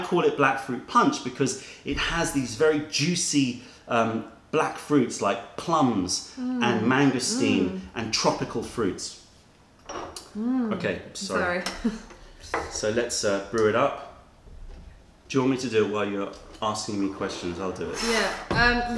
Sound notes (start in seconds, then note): 11.7 laughter